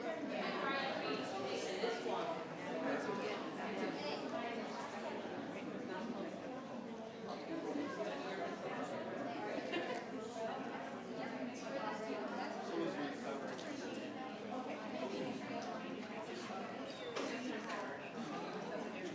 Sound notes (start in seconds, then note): 13.6 speaks faintly